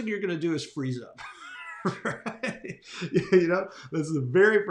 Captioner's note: laughs